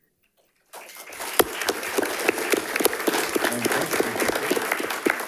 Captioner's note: audience applauding